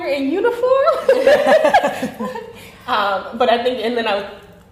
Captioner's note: laughing